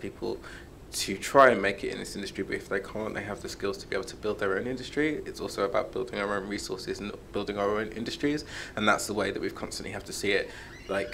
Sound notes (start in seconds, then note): none